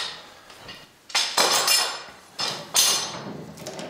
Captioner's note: metallic rattle